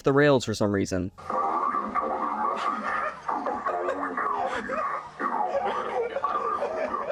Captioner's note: laughter